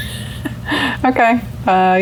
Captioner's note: laughs